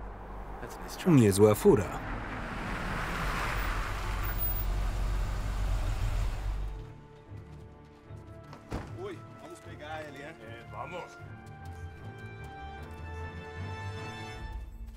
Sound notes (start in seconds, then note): 8.6 speaking in Spanish